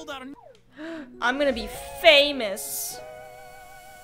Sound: gasps

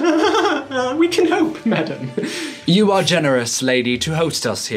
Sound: nervous laugh

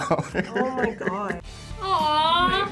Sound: laughs

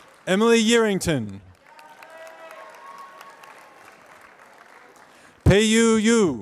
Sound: applause

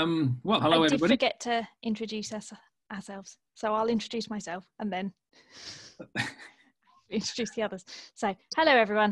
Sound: laughs

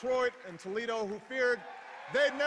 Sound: cheers

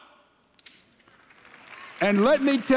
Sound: congregation applauding

